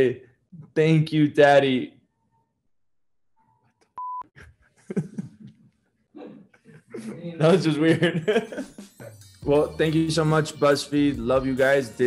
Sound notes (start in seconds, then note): 4.0 beep; 4.4 laughs; 8.9 laughs